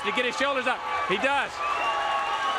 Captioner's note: crowd cheering